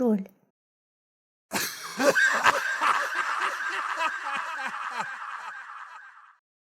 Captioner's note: unkind laughter